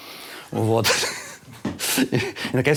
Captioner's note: both laugh